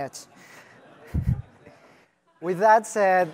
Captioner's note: laughter